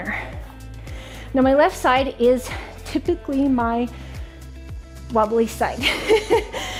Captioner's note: laughing